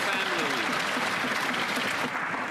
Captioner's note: some Applause